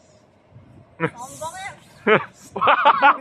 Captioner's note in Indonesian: windy